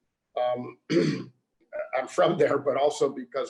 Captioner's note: clears throat